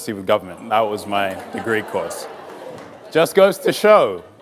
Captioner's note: audience laughs